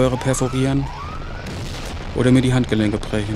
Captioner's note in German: Fernes Explosionsgrollen